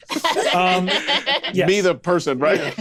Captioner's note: laughs